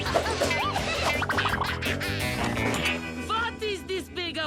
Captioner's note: all laugh